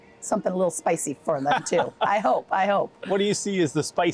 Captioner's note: laughing